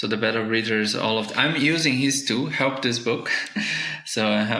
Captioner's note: chuckling